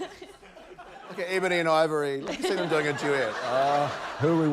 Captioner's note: laughter